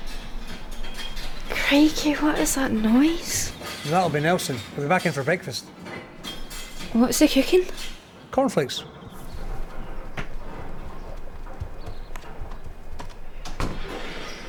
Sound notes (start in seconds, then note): 0.0 clinking; 9.0 rustling